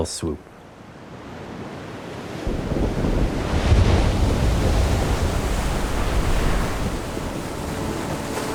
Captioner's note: heavy wind, waves crashing; gentle music